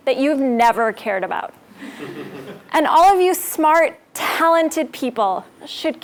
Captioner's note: laugh